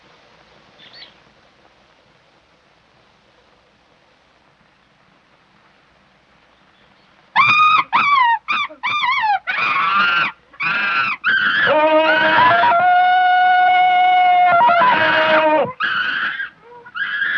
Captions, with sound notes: [Little birds chirping] [Cheetah screaming] Tarzan's jungle call